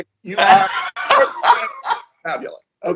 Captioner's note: Coleman laugh